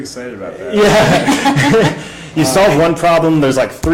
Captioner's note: laughs